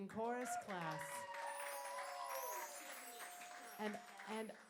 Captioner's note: applause